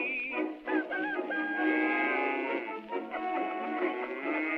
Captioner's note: rooster crows and cow moos